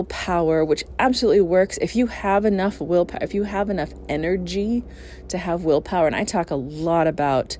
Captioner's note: helicopter noise